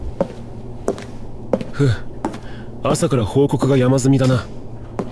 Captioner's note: sigh